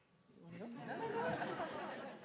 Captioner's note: audience laughs